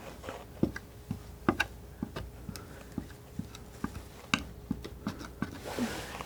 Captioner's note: scratching